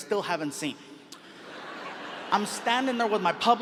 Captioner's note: audience laughs